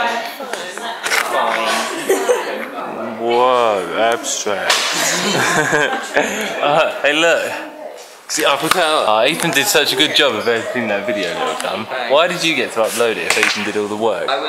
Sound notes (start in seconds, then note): 1.8 laughs at the absurdity; 5.0 stupid dumbass laughter